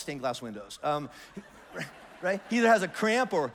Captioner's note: congregation laughs